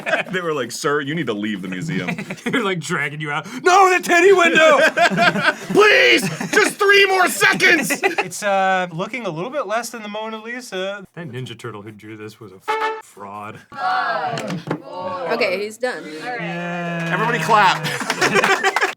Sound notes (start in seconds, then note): 16.2 unenthusiastically but trying his best; 16.9 crew applauds without free will